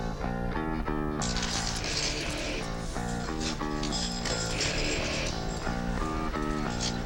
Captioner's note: fence jangling; upbeat rock music